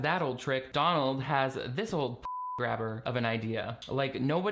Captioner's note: beeping